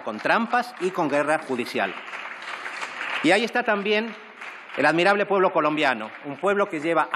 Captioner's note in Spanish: Aplausos